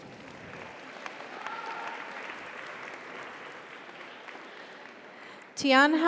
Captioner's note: audience applauds; audience cheers